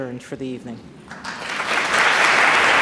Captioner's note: applause